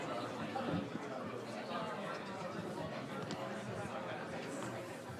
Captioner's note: audience chatting indistinctly